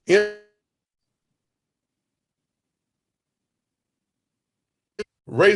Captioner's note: computer freezes